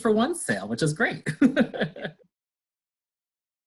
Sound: laughs

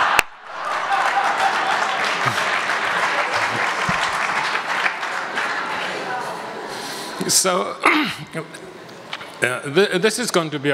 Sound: audience laughs and applauds

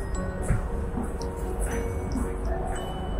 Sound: mysterious music continues; footsteps

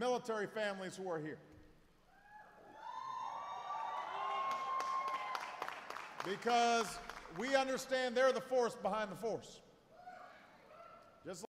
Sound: applause

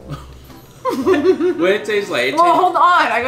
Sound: playful music; laughs

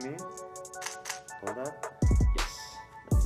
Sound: camera shuttering

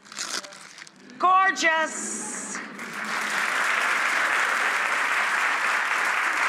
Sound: audience applauding

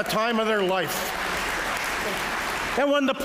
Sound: applause

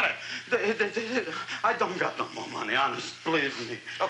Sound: stammers

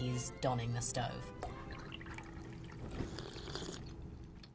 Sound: tea gurgling; slurping

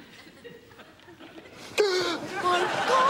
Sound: gasping

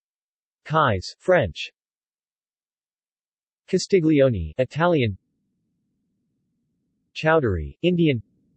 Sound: Italian

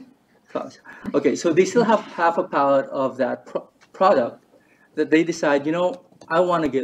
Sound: laughs

